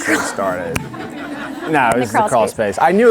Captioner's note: audience laughing